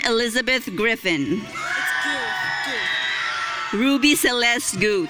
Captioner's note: audience cheering